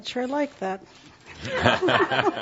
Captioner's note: laughter